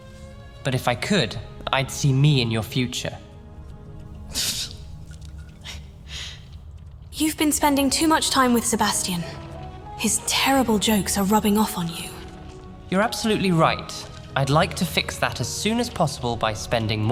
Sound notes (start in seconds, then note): 4.2 she snorts